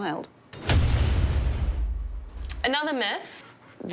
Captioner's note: metal clanging; metal thudding